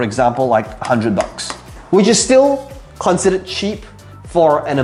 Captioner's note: tapping marker